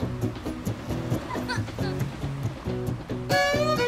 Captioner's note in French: rire